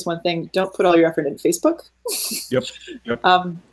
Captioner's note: laughing